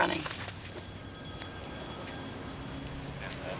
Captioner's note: phone rings